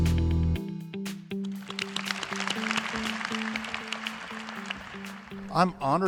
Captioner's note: applause